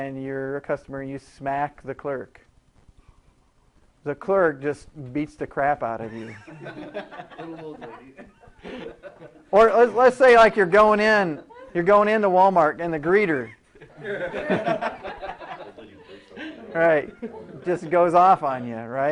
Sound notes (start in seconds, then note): 8.5 laughing